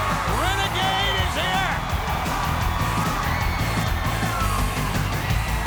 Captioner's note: crowd cheering